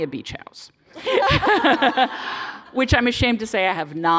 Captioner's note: laughter